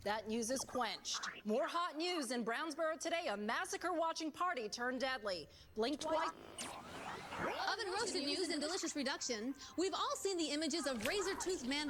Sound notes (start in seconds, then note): 6.0 static